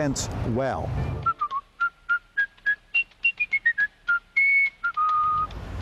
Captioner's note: cheerful whistling